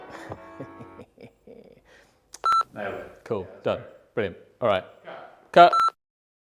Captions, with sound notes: (laughing) (beep) - Nailed it. - Cool. Done. - Yeah, that was great. - Brilliant. All right. - Cut. - Cut.